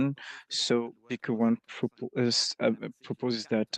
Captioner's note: speaking French